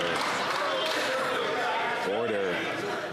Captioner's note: some Applause